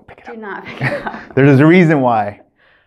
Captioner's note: laughing